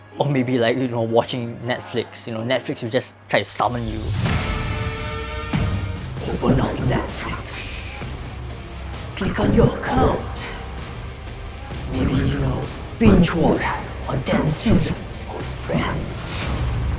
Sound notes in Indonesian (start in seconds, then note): 6.3 Bergema